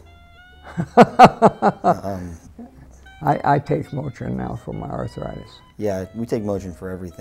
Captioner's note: laughing